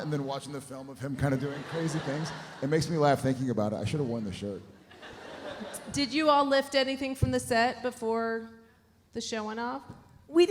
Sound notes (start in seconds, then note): 4.8 audience laughs